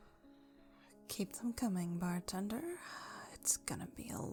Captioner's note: sighs